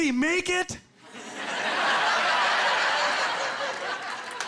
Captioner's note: laughing